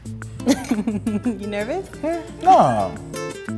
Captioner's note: laughs